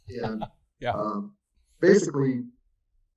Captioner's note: laughs